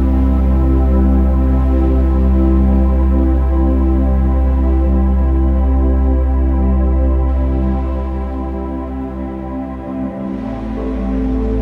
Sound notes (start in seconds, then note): none